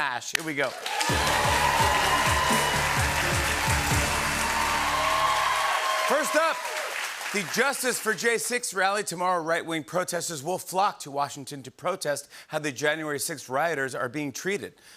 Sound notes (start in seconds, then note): 0.6 cheering and applause